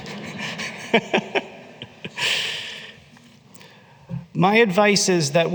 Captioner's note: laughter